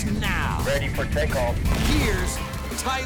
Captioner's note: voice on radio